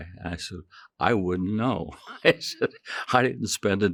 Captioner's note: chuckling